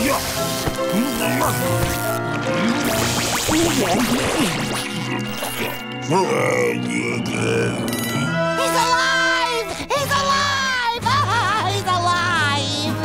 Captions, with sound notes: [groaning] He's alive! He's alive! Oh, he's alive!